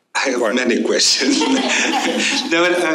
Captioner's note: laughter